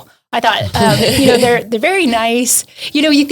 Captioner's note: hosts laughs